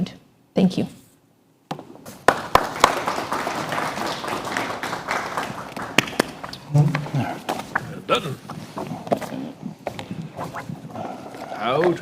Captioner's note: applause